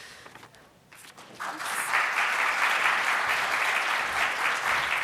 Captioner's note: applause